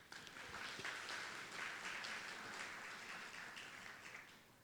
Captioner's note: audience applauding